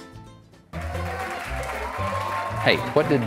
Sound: audience cheering

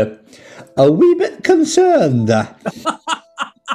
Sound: bad scottish accent; laughing

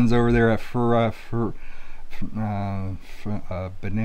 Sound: stuttering

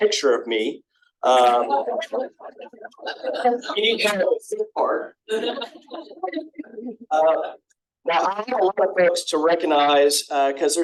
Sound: laughter

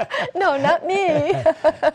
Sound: laughter

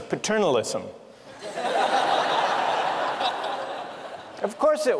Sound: laughter

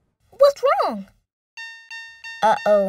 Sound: beeping

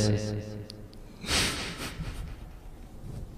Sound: laughter

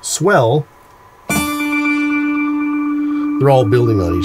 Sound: echoing

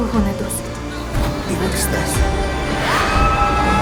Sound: gasps; screams

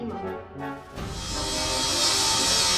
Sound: radial saw cutting

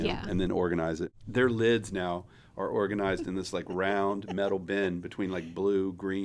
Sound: laughing

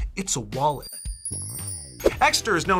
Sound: chimes ringing

